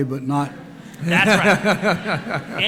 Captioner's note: laughter